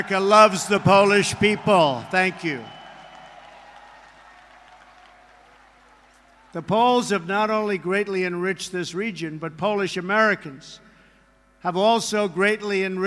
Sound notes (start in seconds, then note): 1.8 applause